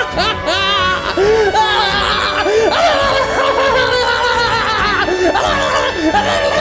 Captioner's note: maniacal laugh-gargling